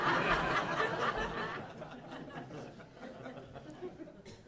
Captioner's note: laughing